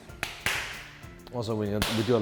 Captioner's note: slapping